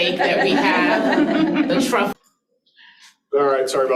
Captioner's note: participants laughing